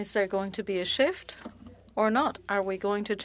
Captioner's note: speaking French